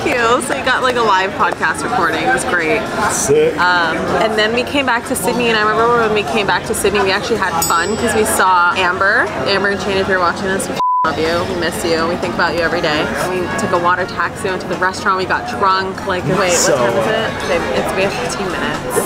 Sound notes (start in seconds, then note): 7.6 bell dinging; 10.8 beep